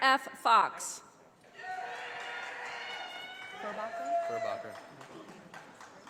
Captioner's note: audience applauding